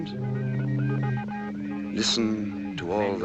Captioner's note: telegraph beeping